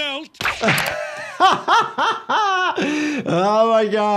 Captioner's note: doctor laughing